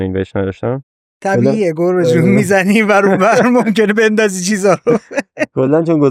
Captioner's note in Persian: خنده